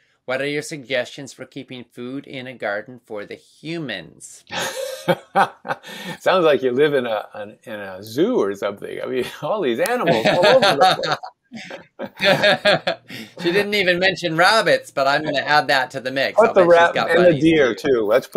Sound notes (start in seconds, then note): 4.5 laughs